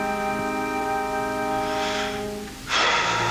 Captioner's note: sighs